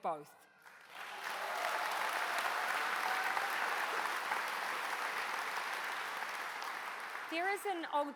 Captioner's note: applause